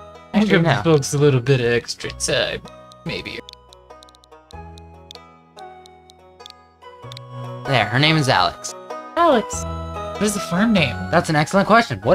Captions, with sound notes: I can do that. Looks a little bit extra. Say maybe. [Ticking] There. Her name is Alex. Alex. What is the farm name? That's an excellent question.